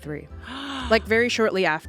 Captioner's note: gasps